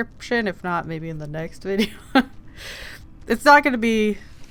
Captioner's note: laughs